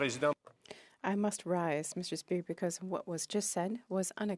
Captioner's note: speaking French